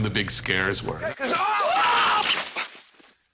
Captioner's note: screaming